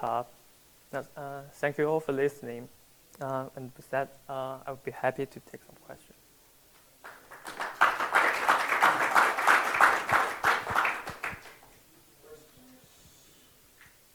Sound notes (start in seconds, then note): 7.0 applause